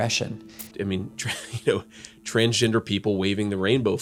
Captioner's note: chuckling